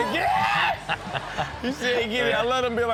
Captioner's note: audience laughs